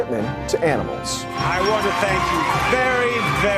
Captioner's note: cheering and Applause